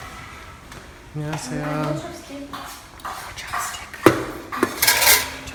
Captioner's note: speaking Korean